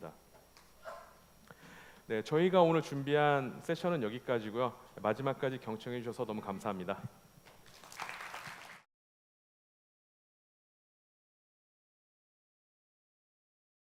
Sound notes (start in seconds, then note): 7.6 applause